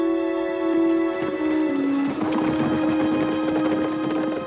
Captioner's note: horses galloping